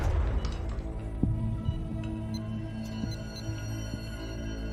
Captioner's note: machine beeping